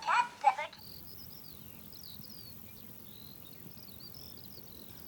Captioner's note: birds and insects